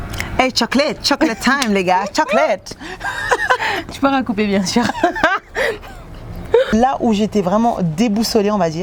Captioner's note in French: rires